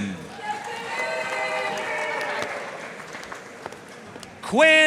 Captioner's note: audience cheering and applauding